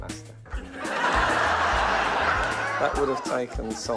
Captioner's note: laughter